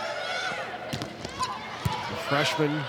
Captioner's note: ball thumping